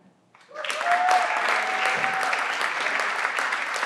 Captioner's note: everyone claps